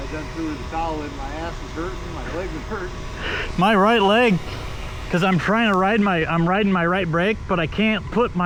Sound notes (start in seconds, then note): 3.3 laughing